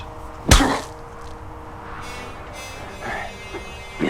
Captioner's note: smacking